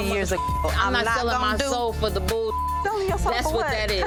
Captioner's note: beep